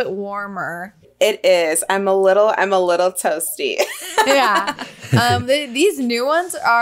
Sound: laughs

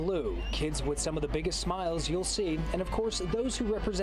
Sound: laugh

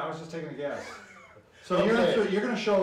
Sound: chuckles

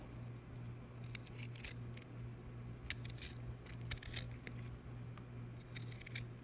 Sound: scrapes

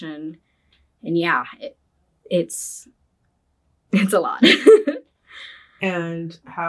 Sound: laughs

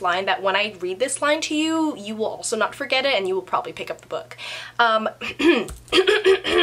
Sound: clears throat

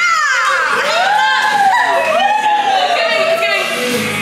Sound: all cheer

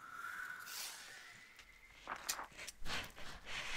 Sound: sliding

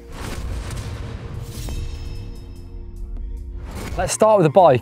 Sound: electronics whoosh

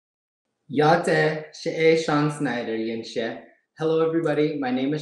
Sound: speaking in foreign language

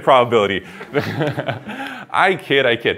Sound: laughter

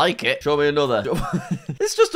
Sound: laughs

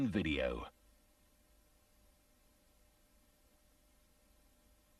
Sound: VHS static

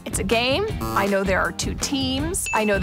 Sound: ticking sound effect

